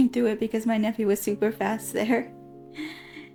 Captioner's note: giggles